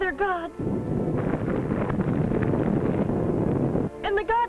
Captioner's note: volcano rumbling